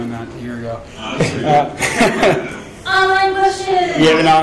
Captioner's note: laughing